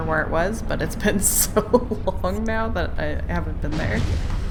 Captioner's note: laughs